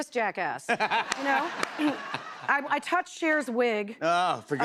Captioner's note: laughter